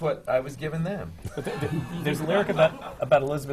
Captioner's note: laughter